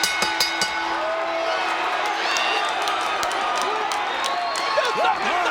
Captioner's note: applause